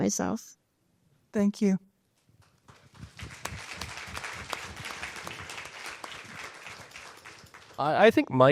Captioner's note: applause